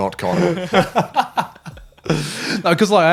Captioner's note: laughing